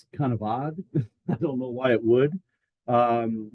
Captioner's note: laughs